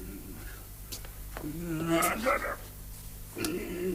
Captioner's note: hums